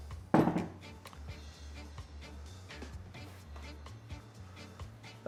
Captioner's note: tool clunking on table